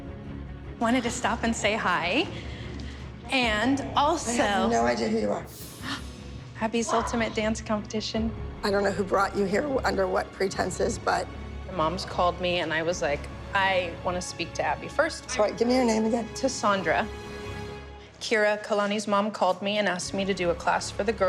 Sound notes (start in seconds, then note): 5.9 gasps